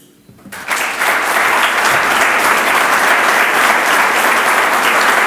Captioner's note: audience applauds